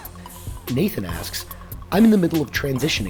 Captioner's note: voiceover